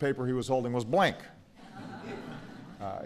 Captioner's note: laughter